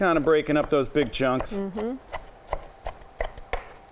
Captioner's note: chopping